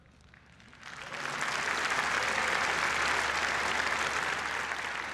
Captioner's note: applause